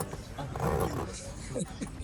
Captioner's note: zipper hissing; chuckles